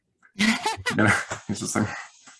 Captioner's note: laughing